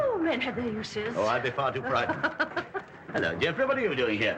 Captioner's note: laughs